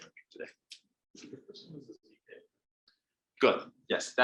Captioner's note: audience murmuring